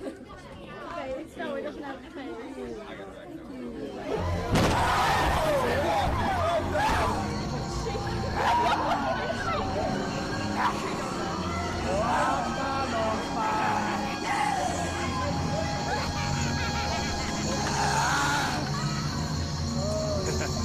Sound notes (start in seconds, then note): 3.5 crowd screams; 4.4 loud thud; 9.7 snarling; 13.5 maniacal laughter; 17.6 roaring; 19.3 laughs